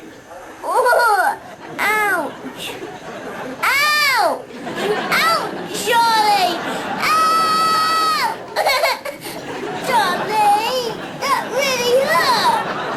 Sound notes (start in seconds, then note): 3.4 shouting; 6.8 shouts; 6.8 cries; 12.7 audience laughing